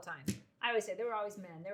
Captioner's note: hand slaps on counter